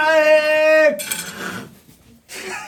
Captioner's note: groaning sounds start; others in the room try to suppress laughter